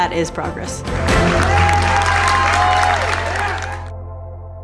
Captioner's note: audience cheers